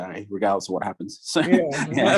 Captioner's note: laughs